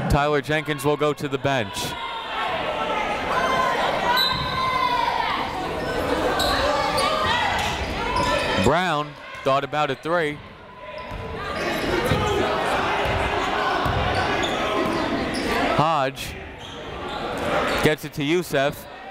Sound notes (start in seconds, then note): 2.6 chatter; 4.1 whistle